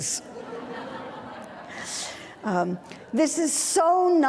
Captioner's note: audience laughing